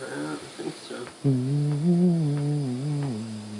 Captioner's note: humming